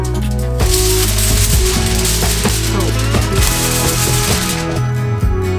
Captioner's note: sound of foil being loud